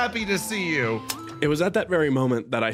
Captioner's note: click